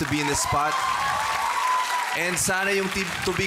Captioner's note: applause, cheering